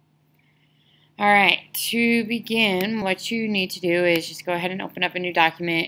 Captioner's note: voiceover